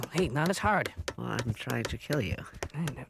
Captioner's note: quietly